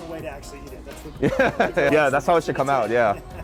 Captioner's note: laughs